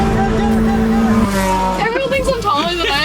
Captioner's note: engine roaring